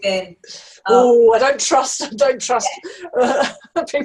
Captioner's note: laughing